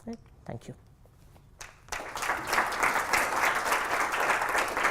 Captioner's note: applause